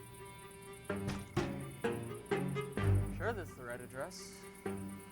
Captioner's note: knocks